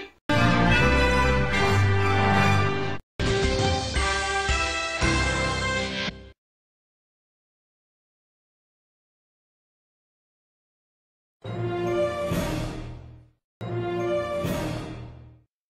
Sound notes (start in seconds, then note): 0.3 majestic TV jingle plays; 7.4 silence